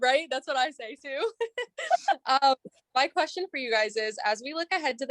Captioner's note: laughter